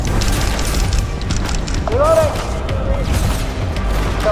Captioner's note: gunshots cracking